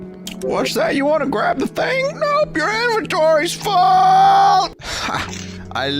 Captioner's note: strange voice